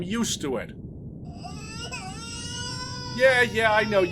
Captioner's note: baby crying